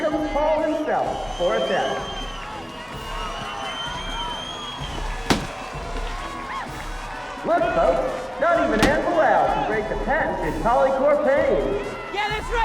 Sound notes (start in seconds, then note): 2.6 people applaud; 4.9 hammer blows